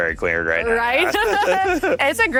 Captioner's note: both laughs